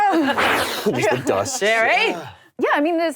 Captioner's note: blowing air